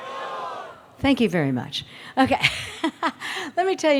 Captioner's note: laughs